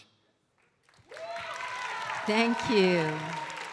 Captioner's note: audience cheering and applauding